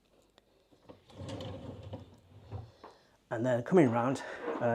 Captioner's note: drawer scraping